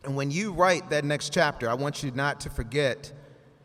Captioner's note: none